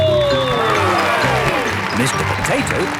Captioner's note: cheering